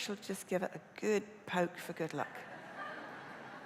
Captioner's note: laughter